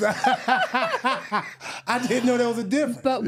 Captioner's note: both laughing